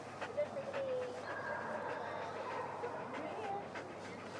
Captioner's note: radical panting